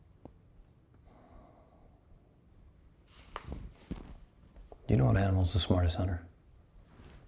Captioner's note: exhales